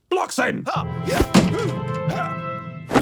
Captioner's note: Blockson hi-yas repeatedly